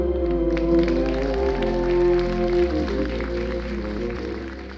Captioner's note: applause